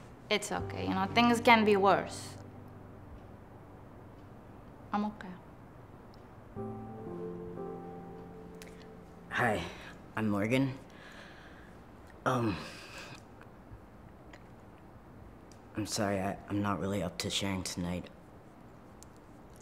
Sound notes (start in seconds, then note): none